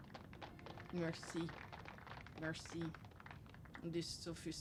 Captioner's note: applause playing; speaks French